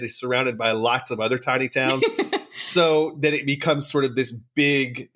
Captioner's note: laughs